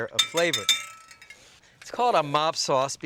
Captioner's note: glass bowl clanking